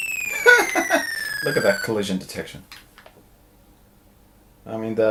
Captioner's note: laughing